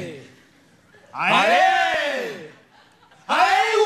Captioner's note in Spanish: más alto